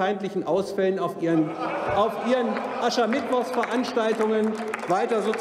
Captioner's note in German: Lachen bei der AfD